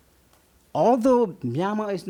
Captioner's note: none